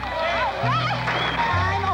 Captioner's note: audience cheering